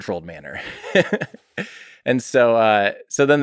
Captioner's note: Tim laughs